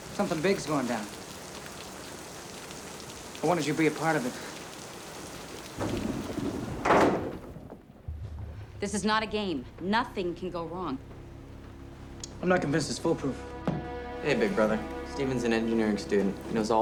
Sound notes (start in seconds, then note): 1.3 rain dripping; 5.5 thunder rumbling